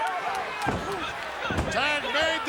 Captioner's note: fist thuds